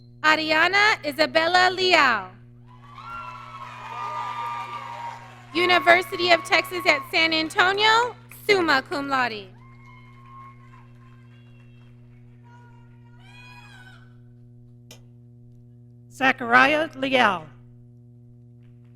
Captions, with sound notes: Ariana Isabella Liao. (audience cheering) University of Texas at San Antonio, Summa Cum Laude. - Zachariah Liao.